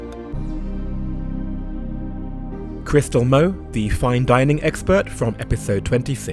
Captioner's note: voiceover